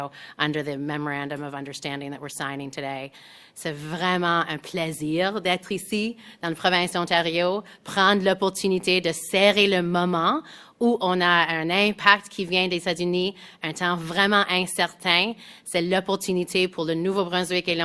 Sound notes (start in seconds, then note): 9.1 speaks French